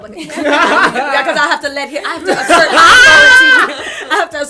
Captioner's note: laughter